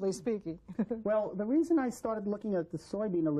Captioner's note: laughter